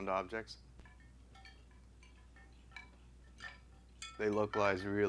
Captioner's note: bones clanging